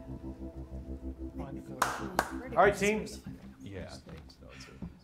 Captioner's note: indistinct chatter